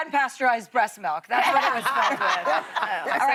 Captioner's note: laughter